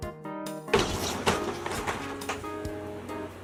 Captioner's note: door opening